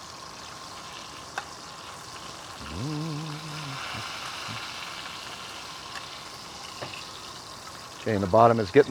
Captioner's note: sizzling